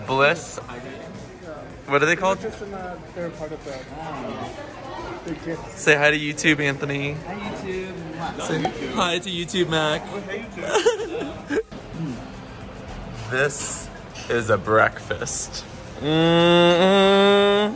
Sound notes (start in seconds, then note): 10.6 laughing